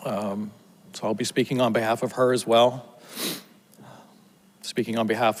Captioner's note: sniffles